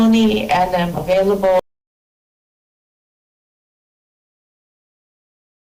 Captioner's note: audio cuts out